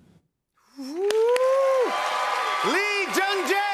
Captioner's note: cheers and applause